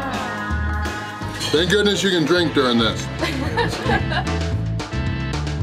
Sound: laughter

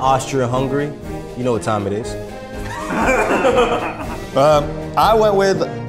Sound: all laughing

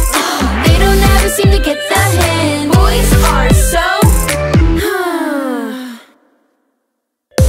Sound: sigh

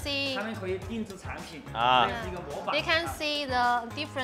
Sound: host speaks Mandarin

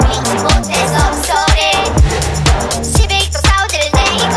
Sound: vroom

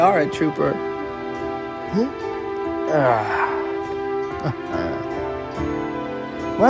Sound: Ian grunting and laughing

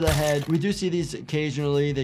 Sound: ax squishes

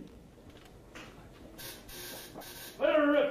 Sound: electricity buzzing

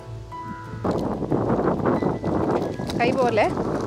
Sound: wind howling

